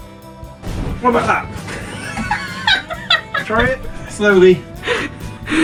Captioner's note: laughs hysterically